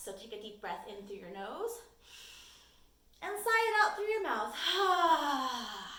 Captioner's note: exhales